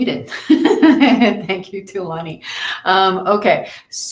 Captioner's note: laughs